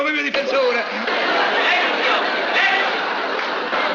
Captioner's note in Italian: risate